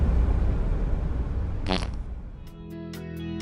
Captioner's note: booty noises